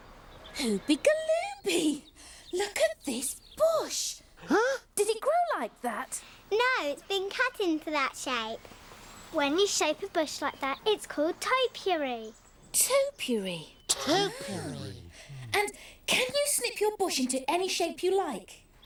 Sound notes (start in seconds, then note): 4.4 both gasping